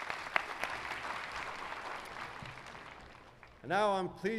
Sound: applause

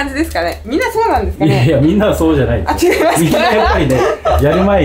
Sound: laughs

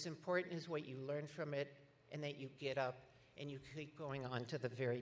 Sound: none

